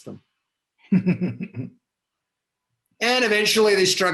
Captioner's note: laughs